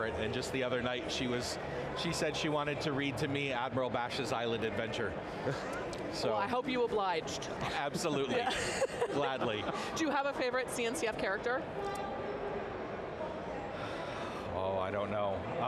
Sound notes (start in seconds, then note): 8.1 laughs